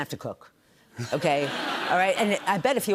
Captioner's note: laughter